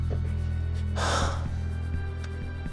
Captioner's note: Steve sighs